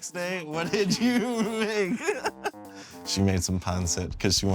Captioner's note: laughing